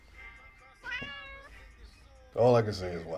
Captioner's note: cat meowing